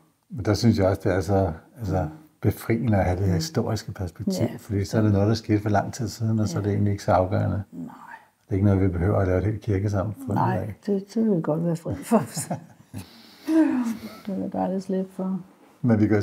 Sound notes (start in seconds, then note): 12.0 both laugh